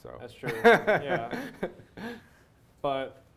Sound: laughter

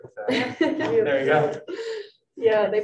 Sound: group laughing

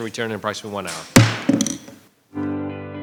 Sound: gavel bangs; mellow music

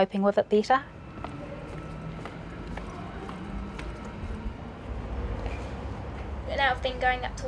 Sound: sound of footsteps

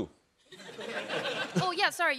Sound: chuckling

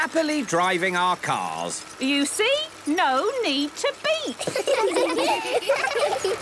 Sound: laughter

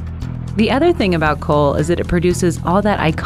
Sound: voiceover

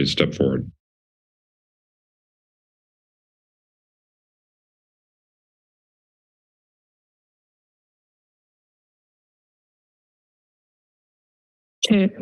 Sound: silence

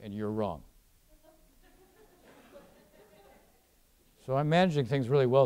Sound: audience laughing

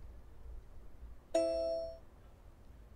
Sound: ding

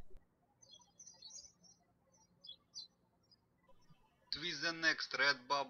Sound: birds chirping

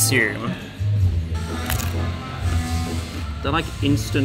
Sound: crunches chip

